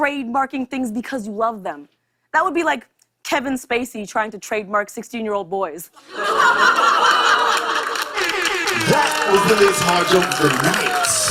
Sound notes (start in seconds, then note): 6.0 laughter